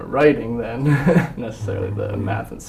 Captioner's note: laugh